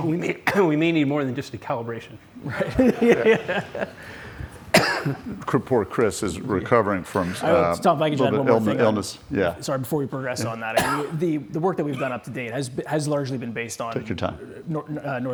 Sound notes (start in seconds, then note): 2.4 laughs